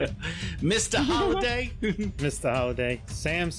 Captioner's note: laughing